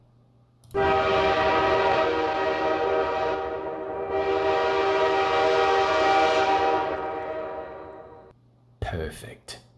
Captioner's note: train horn